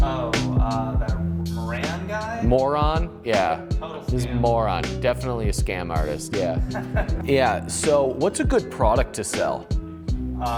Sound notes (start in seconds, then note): 6.4 laughs